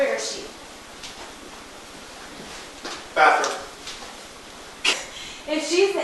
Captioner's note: laughs